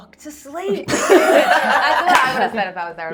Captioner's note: laughing